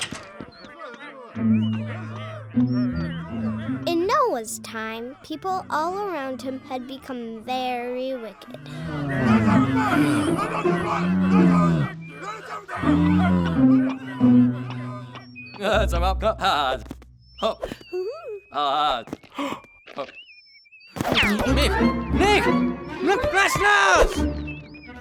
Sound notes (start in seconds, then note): 8.9 yelling and arguing; 16.5 happy gibberish; 21.2 yelling